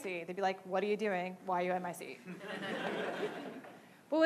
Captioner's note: laughing